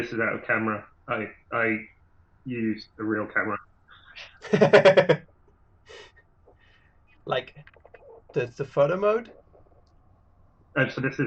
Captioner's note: laughter